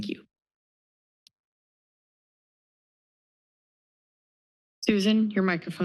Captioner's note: silence